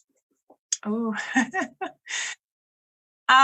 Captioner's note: laughs